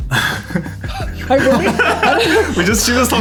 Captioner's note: all laugh